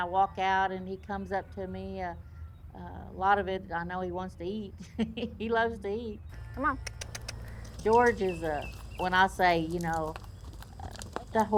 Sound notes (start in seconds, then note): 6.3 clicks teeth; 6.4 laughs